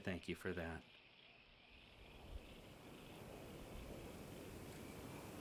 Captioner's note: crickets chirping